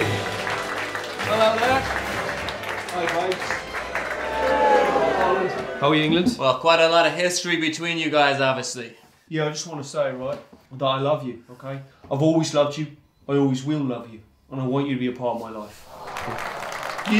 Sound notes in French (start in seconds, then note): 0.0 le public applaudit; 3.8 le public hue; 15.8 le public applaudit et : hooo <3